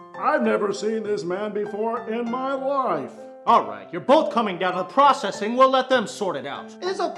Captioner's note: none